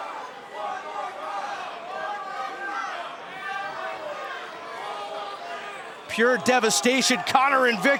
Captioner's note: fans chanting